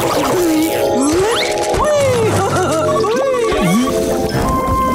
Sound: chuckles

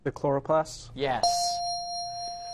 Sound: ding

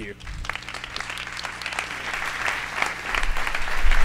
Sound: applause

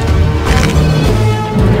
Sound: unholy place cracks

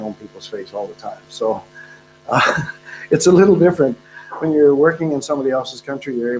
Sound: laughs

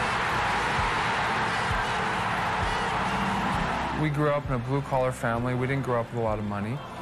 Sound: cheering

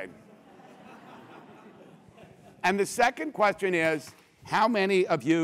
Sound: laugh

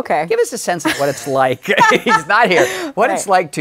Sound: laughs

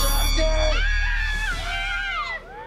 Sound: screaming

